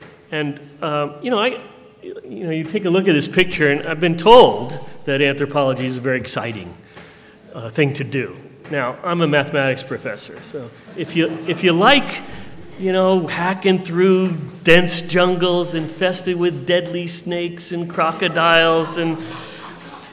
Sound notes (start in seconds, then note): 10.8 laughter